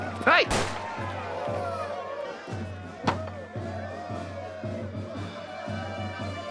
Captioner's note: cheering